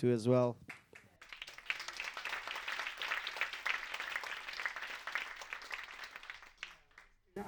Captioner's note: applause